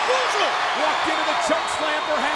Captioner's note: crowd cheering